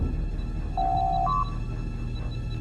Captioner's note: door Chime